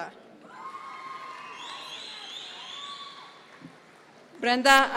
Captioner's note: audience members cheer